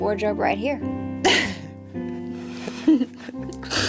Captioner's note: Sandra laughs; Maddie giggles